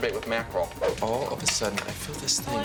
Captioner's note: swishing noise